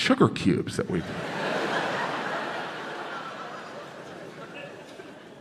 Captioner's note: crowd laughs